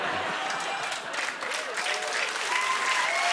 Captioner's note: laughter; applause